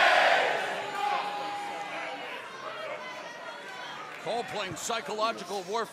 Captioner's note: fans chanting